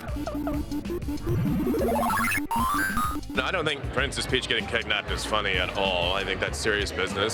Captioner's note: arcade sounds